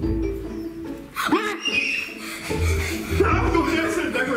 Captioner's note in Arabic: الصراخ